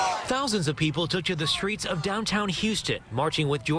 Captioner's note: chanting george floyd